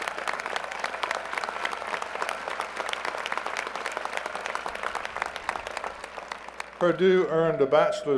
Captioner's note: applause